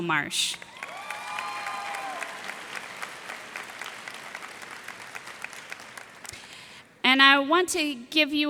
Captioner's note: cheers and applause